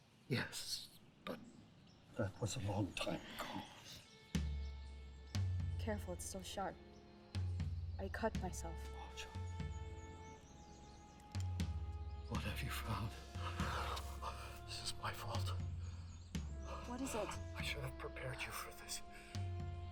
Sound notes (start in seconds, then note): 4.1 brooding percussing music; 13.3 gasps